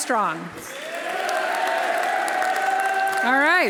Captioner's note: audience applauding; audience cheering